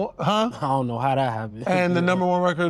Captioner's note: laughs